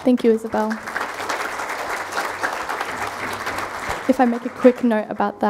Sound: crowd applauding

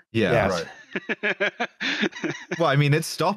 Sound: laughs

